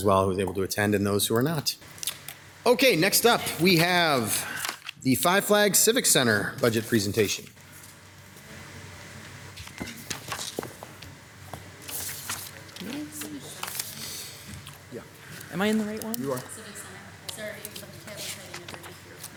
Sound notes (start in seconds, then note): 13.7 speaks faintly